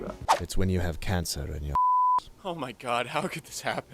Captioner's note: beep